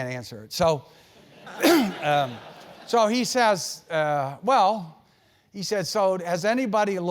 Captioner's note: laugh; cough